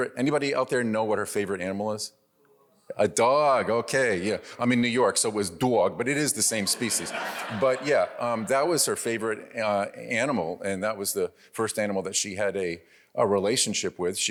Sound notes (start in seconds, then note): 6.5 audience laughs